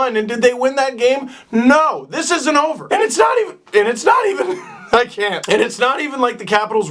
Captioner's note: voice crack